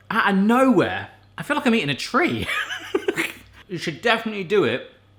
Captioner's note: laughing